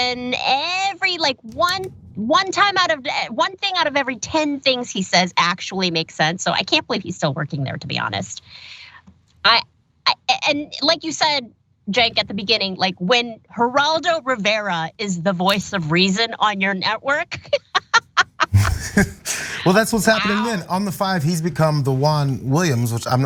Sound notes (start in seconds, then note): 17.3 laugh